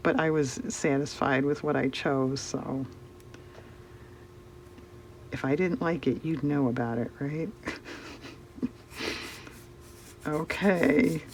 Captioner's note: laughs